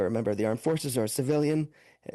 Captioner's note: speaking French